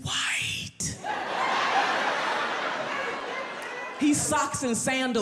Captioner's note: audience laughs